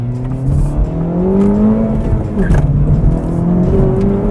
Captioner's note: car engine revving